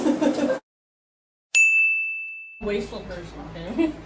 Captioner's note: ding